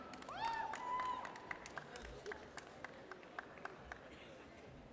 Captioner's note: audience cheers